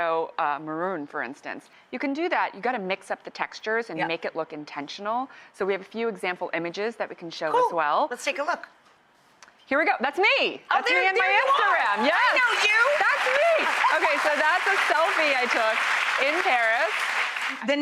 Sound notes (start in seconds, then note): 13.0 crowd cheering